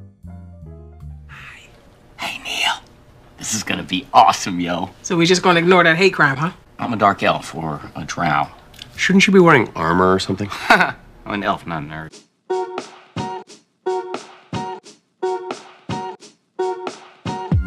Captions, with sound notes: - Hi. - Hey, Neil. This is gonna be awesome, y'all! - So we're just gonna ignore that hate crime, huh? - I'm a dark elf, or a drow. - Shouldn't you be wearing armor, or something? - [Laughing] I'm an elf, not a nerd.